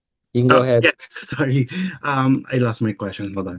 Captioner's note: laughs